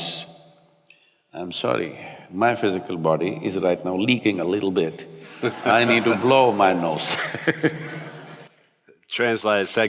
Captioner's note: laughter